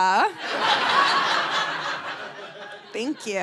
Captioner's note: audience laughing